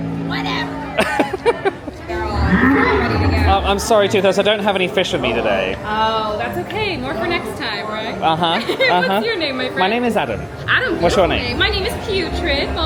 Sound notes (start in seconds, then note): 2.2 Toothless roaring